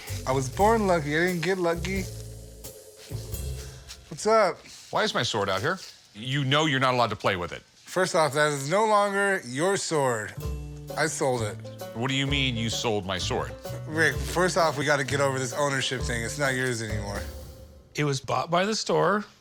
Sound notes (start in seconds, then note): none